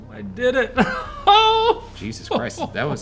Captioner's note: laughs